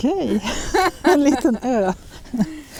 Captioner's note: laughs